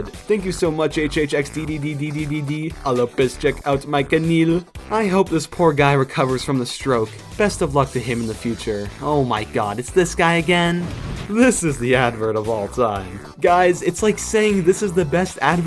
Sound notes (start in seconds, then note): 10.7 explosion